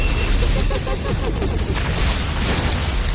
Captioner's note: demonic laughter